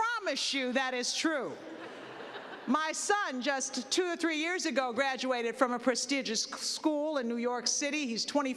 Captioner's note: laughter